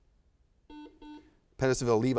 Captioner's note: buzzer buzzes